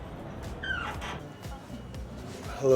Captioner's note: bar chatter